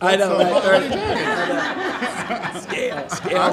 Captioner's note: laughing